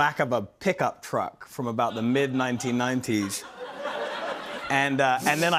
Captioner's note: laughter